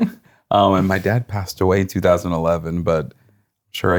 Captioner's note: laughing